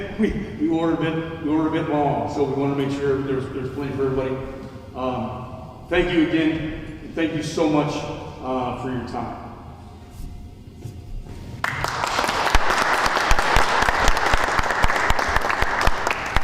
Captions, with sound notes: We ordered it, we ordered a bit long, so we want to make sure there's plenty for everybody. Thank you again, thank you so much for your time. (audience applauds)